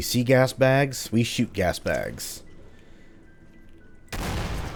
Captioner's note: Boomstick firing